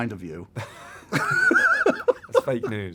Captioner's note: laughter